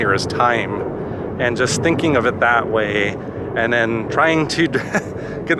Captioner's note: laugh